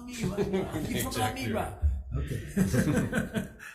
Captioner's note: laughs